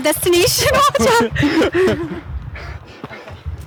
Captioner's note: laughing